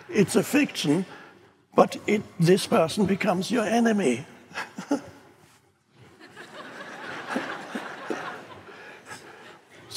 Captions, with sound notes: it's a fiction, but this person becomes your enemy! (all laughing)